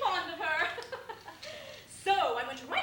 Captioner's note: laughs